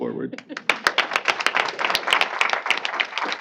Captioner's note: applause